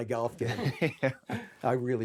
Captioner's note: Michael laughing